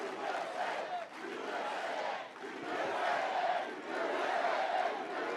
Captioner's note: applause